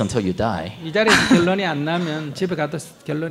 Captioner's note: questioner laughs